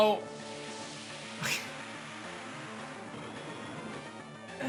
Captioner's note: chuckles